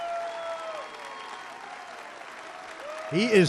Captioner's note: applause